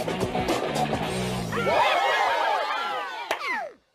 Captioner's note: villagers cheering